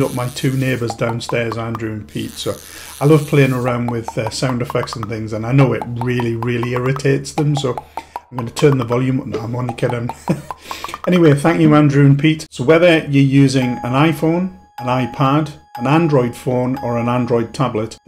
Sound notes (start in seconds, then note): 10.2 laughs